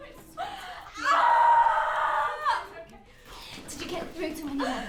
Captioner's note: Belle screaming